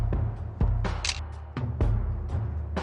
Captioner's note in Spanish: Click